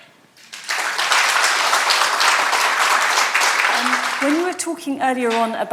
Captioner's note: audience applauding